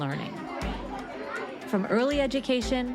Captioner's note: students continue chattering; bright music continues